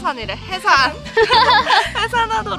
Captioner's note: laughter